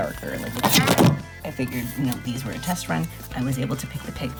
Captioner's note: scraping and exclamation